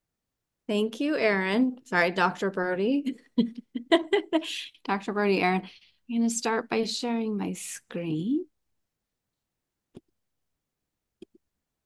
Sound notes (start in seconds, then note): 3.3 kaughter